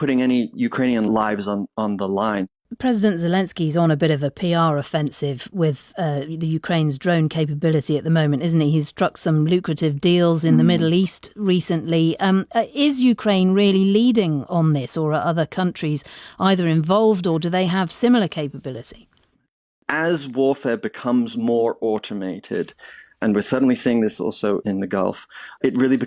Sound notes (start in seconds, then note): 14.0 laughs